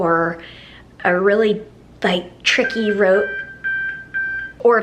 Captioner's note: beeping